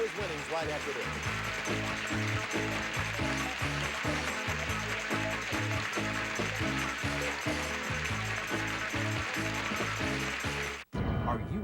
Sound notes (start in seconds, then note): 2.2 audience applauding